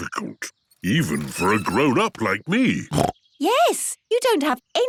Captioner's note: snorts